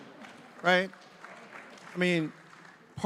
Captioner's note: audience applauding